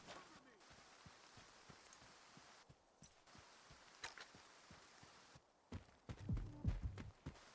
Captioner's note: footsteps